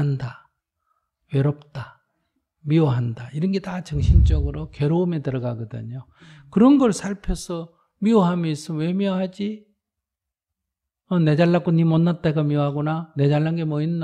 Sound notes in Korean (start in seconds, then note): none